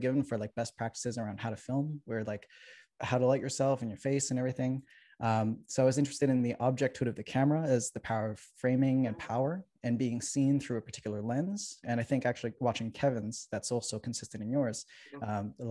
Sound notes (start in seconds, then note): none